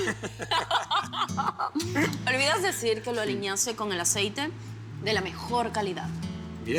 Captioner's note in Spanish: Risas